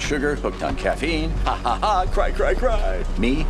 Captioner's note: laughs; mimics cry